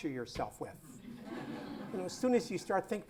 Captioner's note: laughter